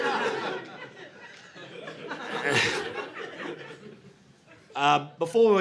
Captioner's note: audience laughing